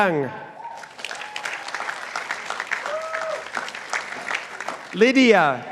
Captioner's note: participants applauding